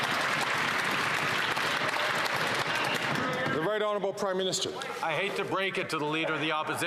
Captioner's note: some Applause